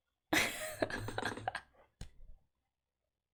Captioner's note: laughs